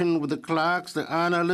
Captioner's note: speaking French